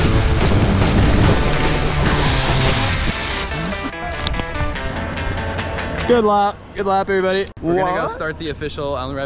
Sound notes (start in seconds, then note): 2.4 water sprays